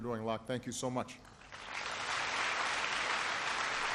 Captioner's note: applause